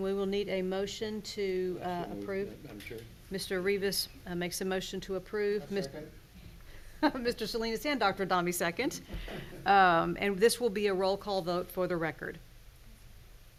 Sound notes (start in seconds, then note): 9.2 chuckles